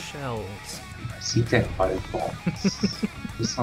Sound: laughter

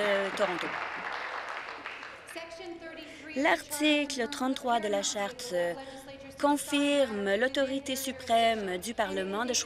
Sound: applause

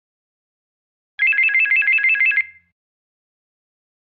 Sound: sound of telephone

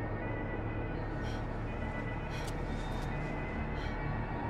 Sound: traffic sound

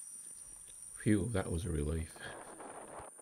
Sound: wind noise

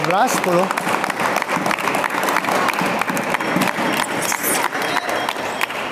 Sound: applause

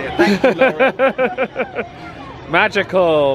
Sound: laughs

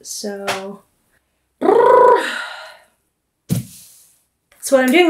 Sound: blows raspberry

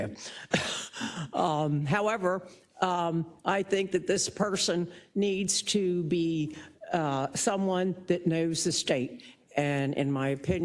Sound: laugh

